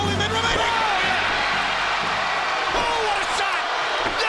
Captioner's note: crowd cheers